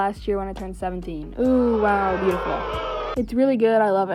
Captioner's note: sarcastically, booing sound effect